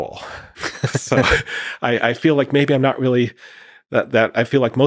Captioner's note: both laughing